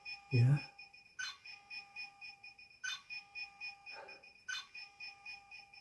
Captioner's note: computer beeping